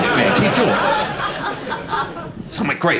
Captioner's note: audience laughing